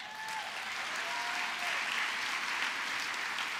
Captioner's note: applause